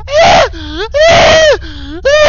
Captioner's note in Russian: вдох